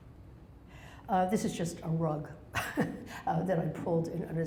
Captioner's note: laughs